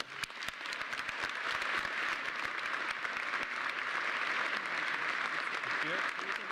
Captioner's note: applause